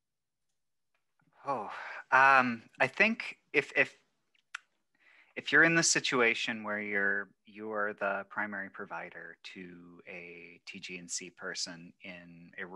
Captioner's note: sighs